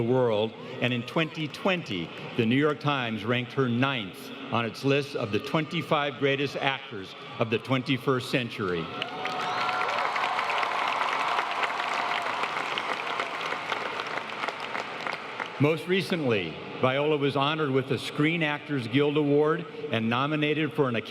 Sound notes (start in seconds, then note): 12.5 applause